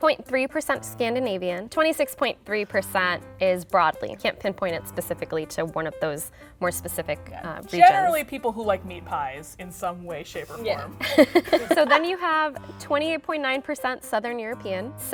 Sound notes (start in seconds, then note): 11.0 laughs